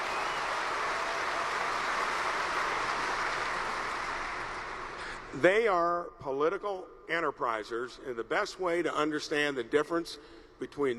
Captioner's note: applause